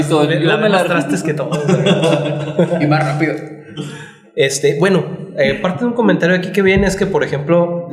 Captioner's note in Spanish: risas